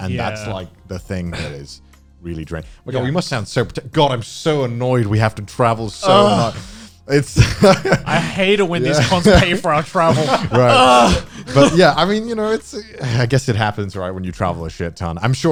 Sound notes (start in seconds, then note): 7.3 laughing